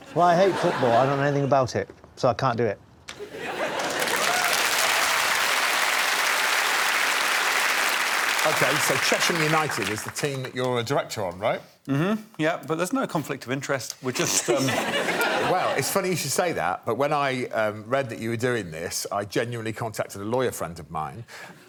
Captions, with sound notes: Well I hate football I don't know anything about it. So I can't do it. [applause] Okay so Chesham United is the team that you're a director of right. Mm-hmm. Yeah but there's no conflict of interest we're just, erm... [scoffs] Well it's funny you should say that but when I, erm, read that you were doing this I genuinely contacted a lawyer friend of mine